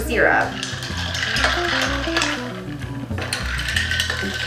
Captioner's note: ice clinking